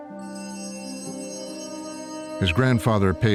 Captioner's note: altar bells ringing